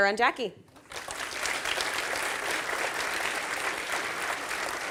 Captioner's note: audience applauding